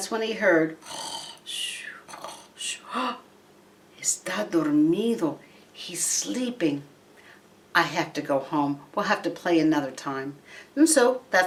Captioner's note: snoring noises